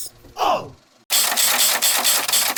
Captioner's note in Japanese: おうっ！